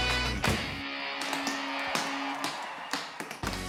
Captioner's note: cheers